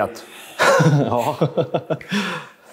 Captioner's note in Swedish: skratt